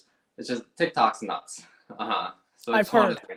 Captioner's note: laughs